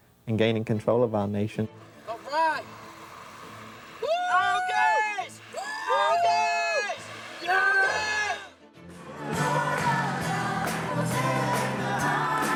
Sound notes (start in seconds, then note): 4.0 people cheering